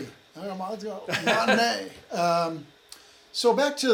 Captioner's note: chuckles